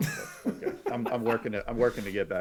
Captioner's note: laughing